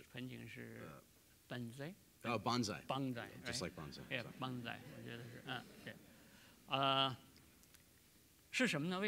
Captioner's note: speaking in Chinese